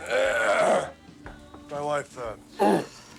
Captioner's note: clears throat